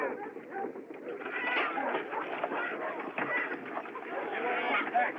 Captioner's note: chickens Clucking